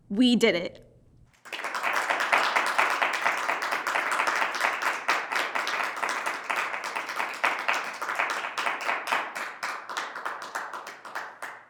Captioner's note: applause